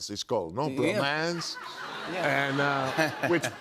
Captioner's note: laughter